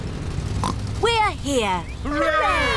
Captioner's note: oinks